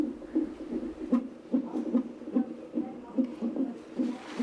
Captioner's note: fetal heart beating